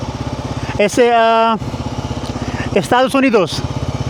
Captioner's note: speaking Spanish